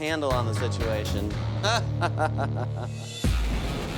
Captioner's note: laughs; rock music